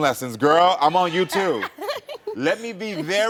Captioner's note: laughing